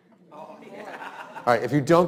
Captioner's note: students laughs